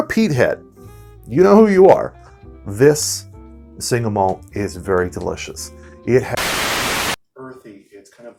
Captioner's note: static